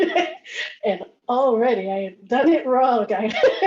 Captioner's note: laughs